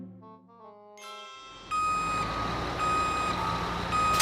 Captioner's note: truck beeping